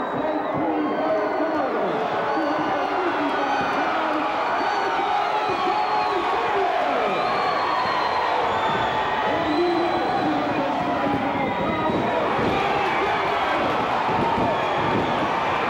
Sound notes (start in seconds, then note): 6.7 crowd cheers; 12.9 crowd cheers